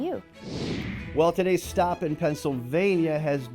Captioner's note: computer whooshing